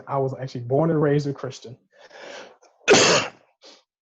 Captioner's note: coughs